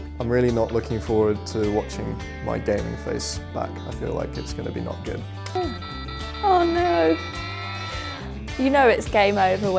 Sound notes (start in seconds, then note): 5.6 red shell alarm blaring